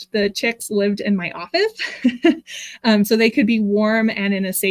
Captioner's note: chuckles